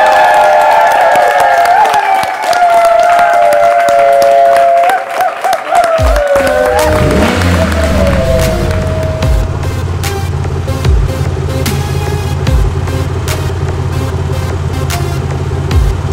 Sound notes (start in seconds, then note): 0.1 applause; 3.8 howling; 7.8 upbeat music